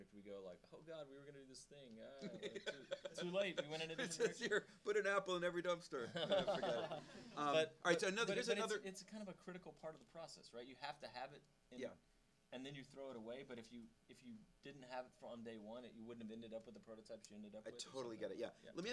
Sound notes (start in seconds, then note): 2.2 laughing; 6.1 audience laughing